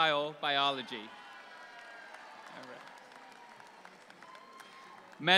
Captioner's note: audience applauds